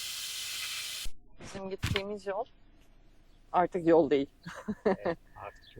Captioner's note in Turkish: kahkaha